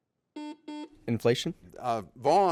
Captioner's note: buzzer beeps